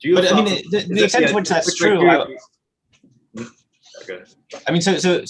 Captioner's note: both murmuring loudly